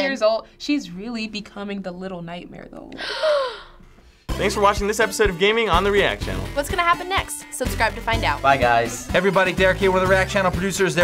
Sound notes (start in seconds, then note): 3.0 gasping